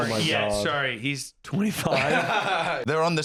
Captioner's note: laughs